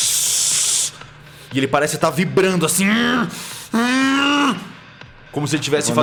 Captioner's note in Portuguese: grunido